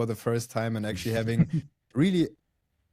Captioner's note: laughs